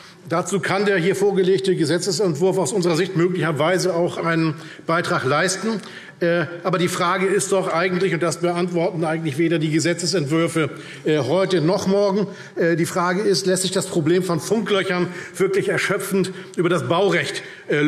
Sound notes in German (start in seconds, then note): none